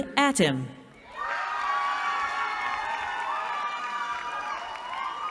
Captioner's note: cheering